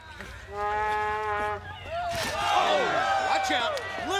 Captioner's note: crowd cheering